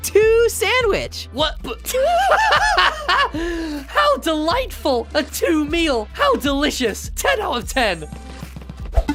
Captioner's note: two laughs